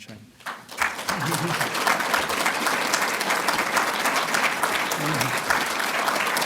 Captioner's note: applause